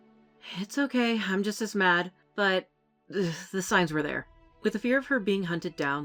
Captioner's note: exasperated